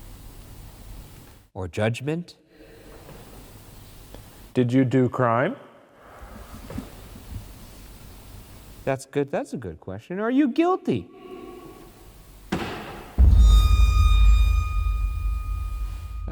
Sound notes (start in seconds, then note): 12.5 knock thuds; 13.1 eerie dramatic music